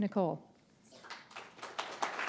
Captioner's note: applause